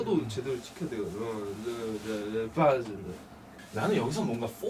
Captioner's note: speaking in their own language